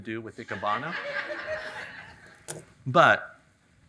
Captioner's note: audience laughing